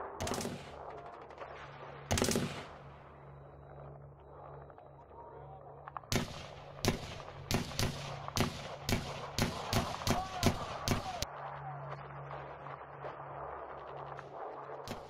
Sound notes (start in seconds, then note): 6.0 weapons firing continues; 10.0 men yelling